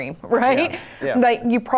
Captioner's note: laughing